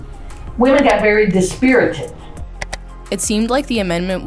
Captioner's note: image clicks